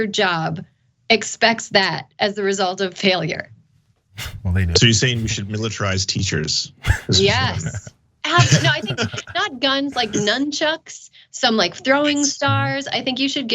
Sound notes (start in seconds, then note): 8.3 laugh